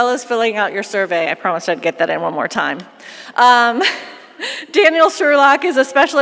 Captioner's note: laughs